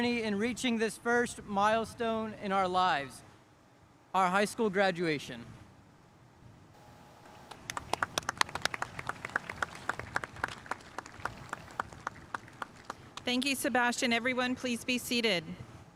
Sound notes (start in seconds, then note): 7.4 spectators applauding